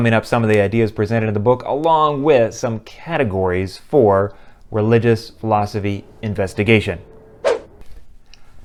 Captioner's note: swoosh